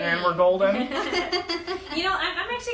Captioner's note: laughs